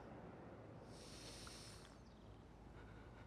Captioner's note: sniffs